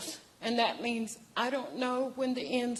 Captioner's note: speaking in native language